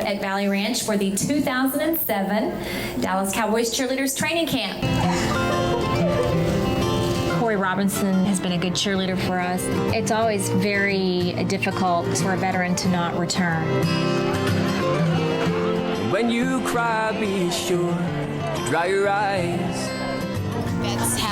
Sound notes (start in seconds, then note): 4.8 crying; 14.4 mellow music